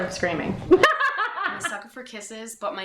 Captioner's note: laughing